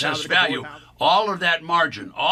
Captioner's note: auctioneer chant